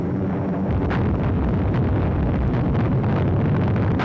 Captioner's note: bombs booming